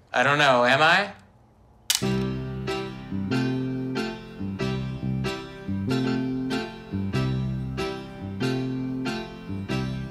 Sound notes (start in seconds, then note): 1.9 camera shutter clicks; 2.0 soft upbeat music